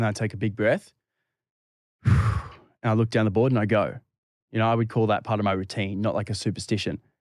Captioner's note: breathing